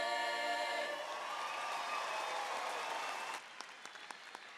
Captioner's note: audience applauding